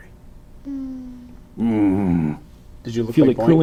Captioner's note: growls